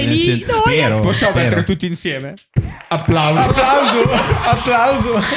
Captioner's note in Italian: applause